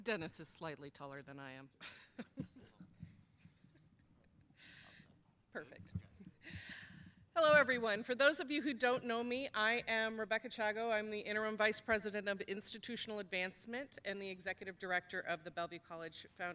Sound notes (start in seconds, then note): 1.8 chuckles